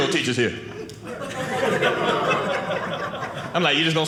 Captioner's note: audience laughing